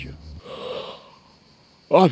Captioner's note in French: bâille